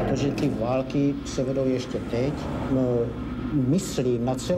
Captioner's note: speaking Czech